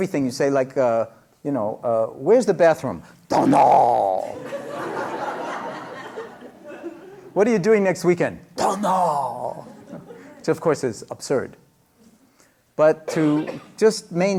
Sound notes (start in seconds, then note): 4.3 laughter